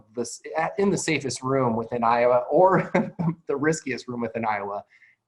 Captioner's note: chuckles